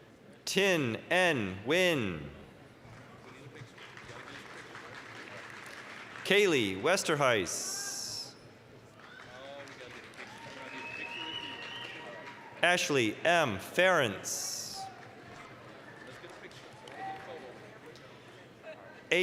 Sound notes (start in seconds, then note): 2.9 applause; 9.0 applause, cheering; 14.8 applause